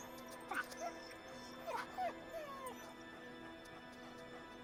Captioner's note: dogs whining